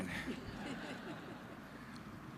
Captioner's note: laughter